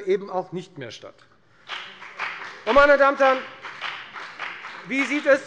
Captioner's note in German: Beifall bei der FDP